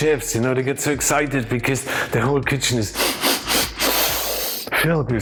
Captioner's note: sniffing